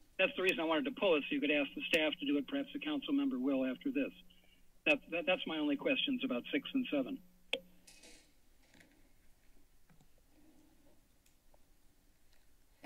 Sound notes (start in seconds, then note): 4.2 silence; 7.4 mic thump; 8.2 pause